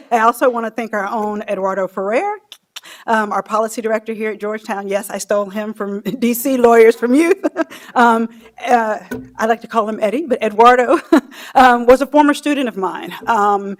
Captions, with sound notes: I also want to thank our own Eduardo Ferrer. Our Policy Director here at Georgetown. Yes, I stole him from D.C. Lawyers, from you. (laughing) I like to call him Eddie, but Eduardo was a former student of mine.